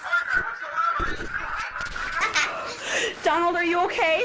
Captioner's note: donald laughing